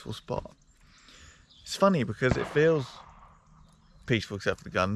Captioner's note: gun noise